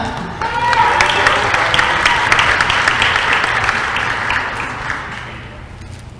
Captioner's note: applause